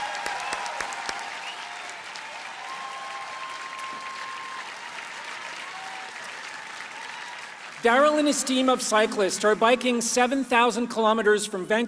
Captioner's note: applause